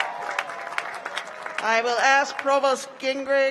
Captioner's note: cheers and applause